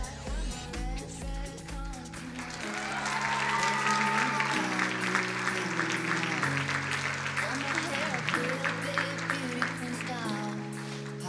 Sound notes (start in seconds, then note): 3.0 crowd cheering and applauding